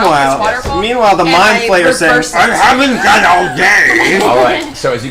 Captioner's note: gravelly voice